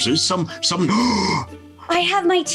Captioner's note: gasping